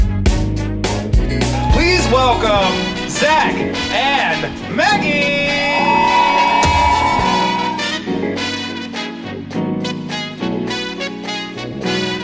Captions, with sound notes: - Please, welcome Zach and Maggie! (audience cheers) (upbeat music)